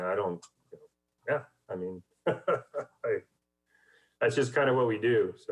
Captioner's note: laughs